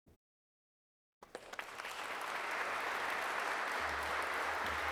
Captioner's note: audience clapping